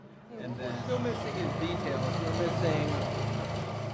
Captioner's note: machinery roaring